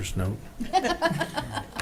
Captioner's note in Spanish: risas